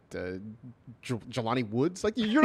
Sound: laughs

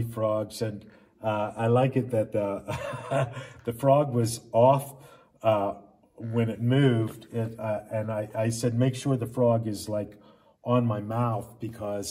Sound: laughs

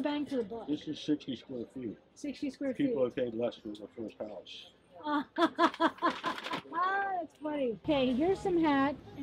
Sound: laughs

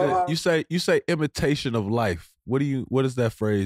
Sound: none

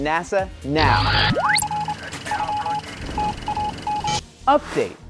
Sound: sound Effects

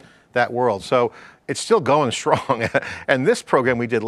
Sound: laughs

